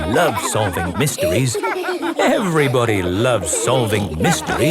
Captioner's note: laughter